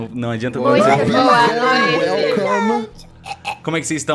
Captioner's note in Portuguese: voz de bebê